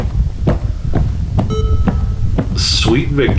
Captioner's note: footsteps